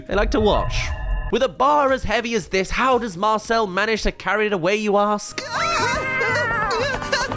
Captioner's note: running